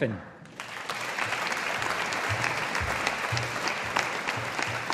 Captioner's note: audience applauding